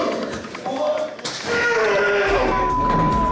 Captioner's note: grunting